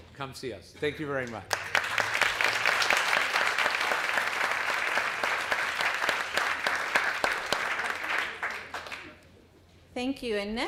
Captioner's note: applause